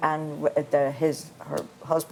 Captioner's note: voiceover